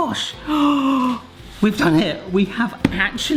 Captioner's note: gasps